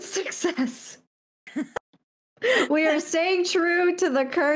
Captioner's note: laugh